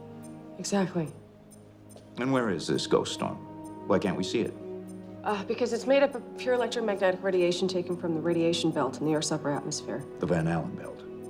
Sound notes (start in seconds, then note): none